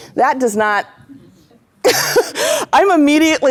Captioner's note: laugh